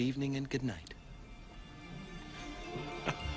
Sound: laughter

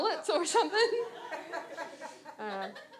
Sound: audience laughs

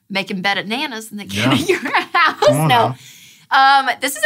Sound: laughs

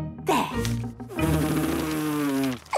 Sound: blows

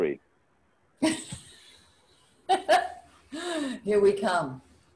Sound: laughs

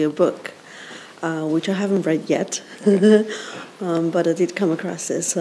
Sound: chuckles

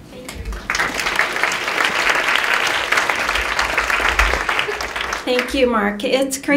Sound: clapping

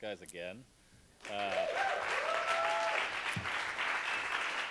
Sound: applause

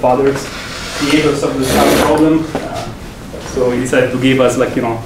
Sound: screeching

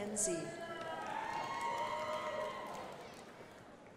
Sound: crowd applauding

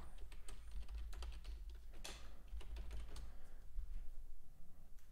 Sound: keyboard clicking

